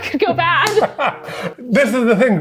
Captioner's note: laughing